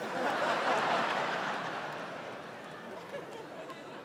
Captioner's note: audience laughing